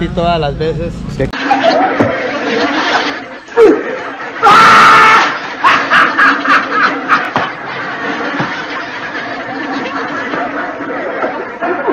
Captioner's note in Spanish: risas